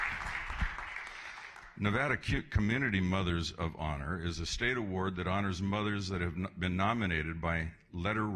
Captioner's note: applause